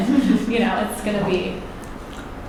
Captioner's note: chuckles